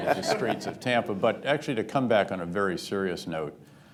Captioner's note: laughter